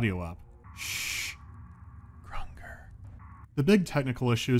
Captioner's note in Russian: шёпотом